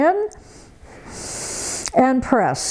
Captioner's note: breathes heavily